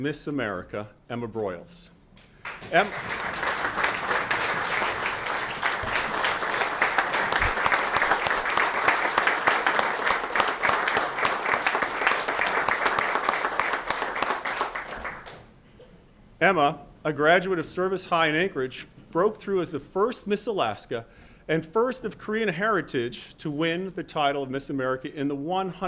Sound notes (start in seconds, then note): 10.1 applause